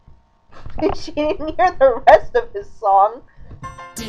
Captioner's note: laughing; both singing along to the tune